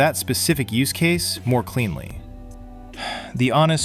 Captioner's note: sighs